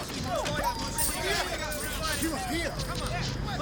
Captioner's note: dogs whining; men chattering